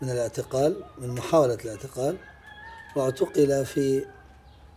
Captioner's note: speaking in Arabic